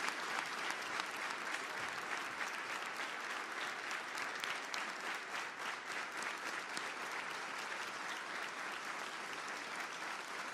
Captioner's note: applause